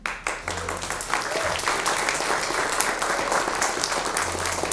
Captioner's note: audience applauds